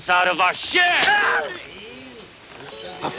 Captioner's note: Bruto screams